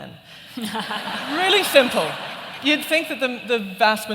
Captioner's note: laughter